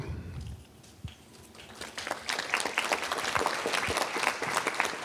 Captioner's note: applause